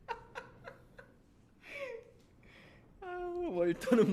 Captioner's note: laughs